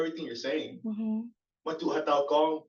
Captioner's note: non-english; non-english